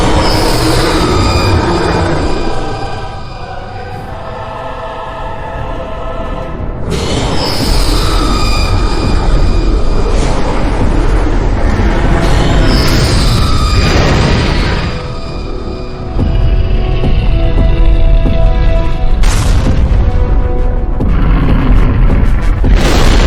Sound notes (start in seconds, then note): 0.1 dinosaur roaring; 7.2 dinosaur roaring; 13.1 explosion booming; 18.0 dramatic orchestral music continues